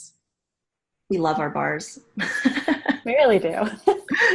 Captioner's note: chuckling